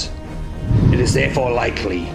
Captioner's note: winds whooshing